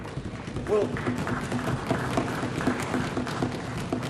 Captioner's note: applause